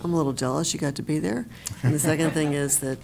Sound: laughter

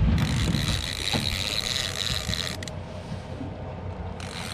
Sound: reel cranking

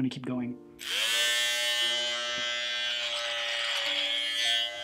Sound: shaver buzzing

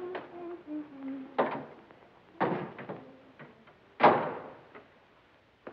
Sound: humming

